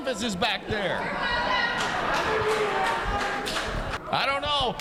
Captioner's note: crowd rumbling